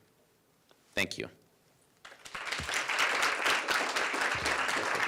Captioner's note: applause